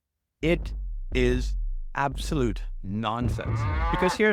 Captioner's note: cow mooing